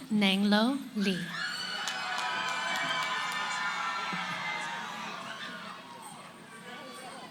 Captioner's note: cheering; background conversations